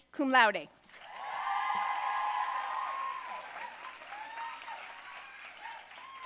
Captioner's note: audience cheering and applauding